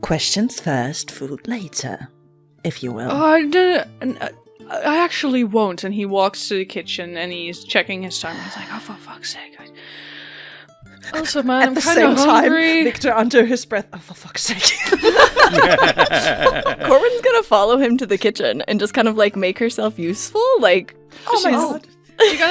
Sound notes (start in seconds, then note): 11.0 under his breath; 14.6 laughter; 16.8 under his breath